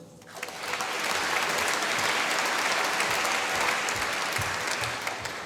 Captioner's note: applause